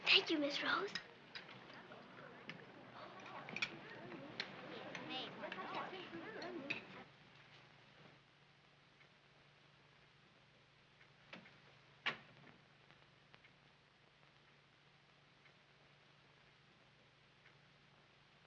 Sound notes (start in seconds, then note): none